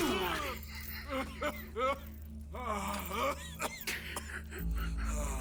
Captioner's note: coughing